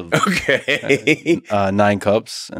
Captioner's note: laughs